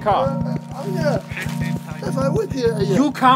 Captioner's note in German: Er stammelt ängstlich